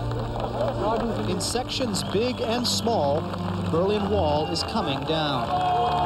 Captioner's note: clapping